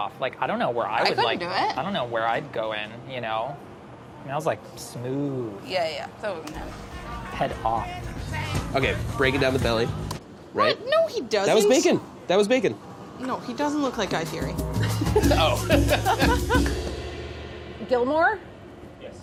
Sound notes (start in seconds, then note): 6.6 upbeat music; 14.7 laughing; 14.7 laughs